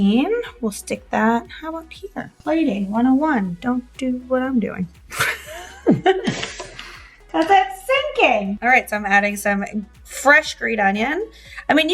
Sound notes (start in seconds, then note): 5.1 laughs